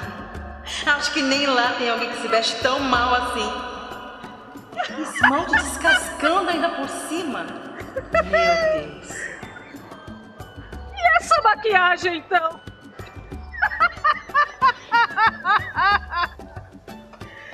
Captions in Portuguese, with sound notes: Não, acho que nem lá tem alguém que se veste tão mal assim. [risos ao fundo] Esse esmalte descascando ainda por cima Meeeeeeu Deus. E essa maquiagem então [gargalhadas]